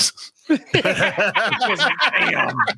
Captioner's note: laughing